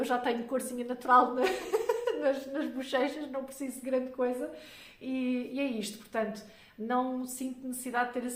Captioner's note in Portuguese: risadas